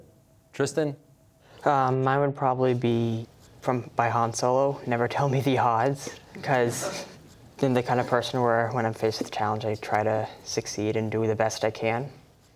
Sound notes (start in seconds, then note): 4.8 chuckling